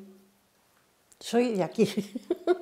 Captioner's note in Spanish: Ríe